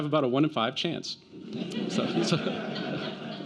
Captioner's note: laughter